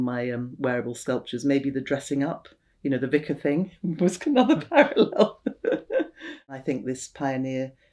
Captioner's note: laughs